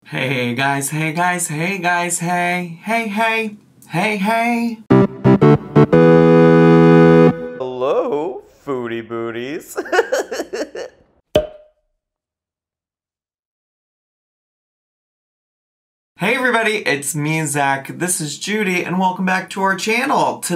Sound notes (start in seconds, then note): 4.8 playful music; 9.6 laughs